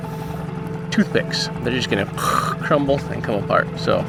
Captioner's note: person rumbles